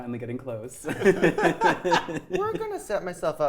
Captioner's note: players laughing